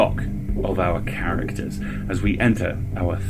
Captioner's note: match flaring, ominous humming